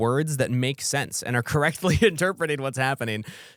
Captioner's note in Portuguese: risos